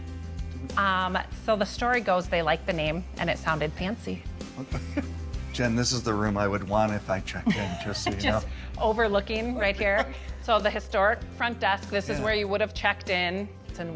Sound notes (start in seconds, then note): 4.5 laughs; 9.5 laughs